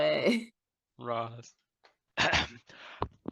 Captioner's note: clears throat